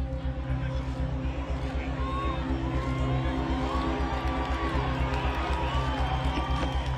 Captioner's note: crowd murmuring; crowd cheering